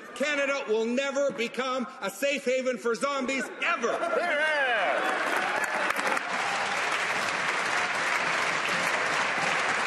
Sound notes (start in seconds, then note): 6.1 cheers and applause